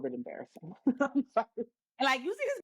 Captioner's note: laughs